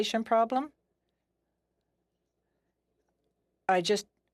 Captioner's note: speaking French